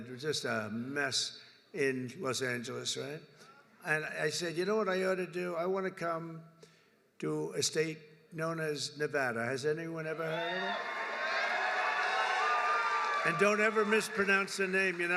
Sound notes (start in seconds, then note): 10.3 applause